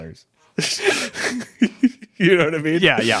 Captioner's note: laughing